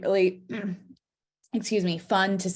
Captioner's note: clears throat